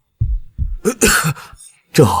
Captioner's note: cough